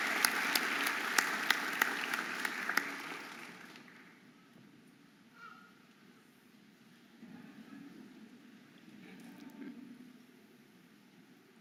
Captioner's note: audience applauding and cheering